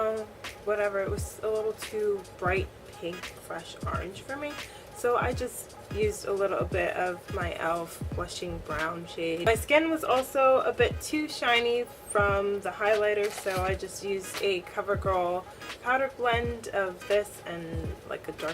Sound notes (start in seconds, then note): none